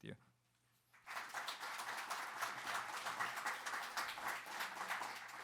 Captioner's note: audience applauding